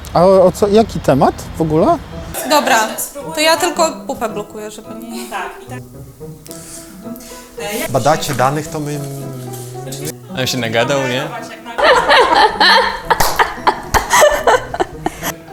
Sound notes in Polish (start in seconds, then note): 4.9 źeński głos w tle; 6.4 wzdycha; 14.3 śmiech